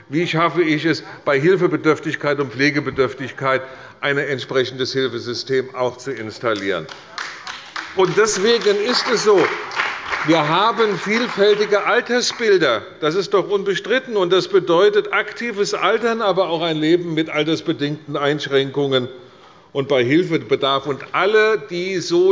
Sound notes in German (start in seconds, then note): 6.5 Beifall bei der CDU und dem BÜNDNIS 90/DIE GRÜNEN